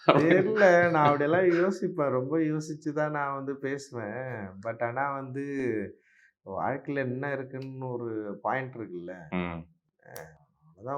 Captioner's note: chuckles